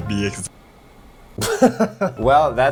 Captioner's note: chuckles